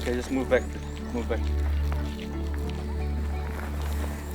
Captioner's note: speaking native language